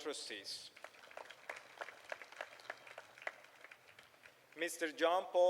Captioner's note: applause